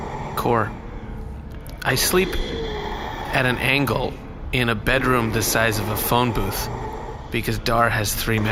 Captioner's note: irritated